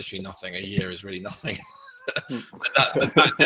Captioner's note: laughing